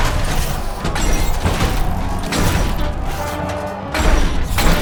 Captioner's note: robots whir, clang